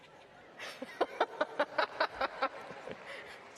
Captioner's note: laughing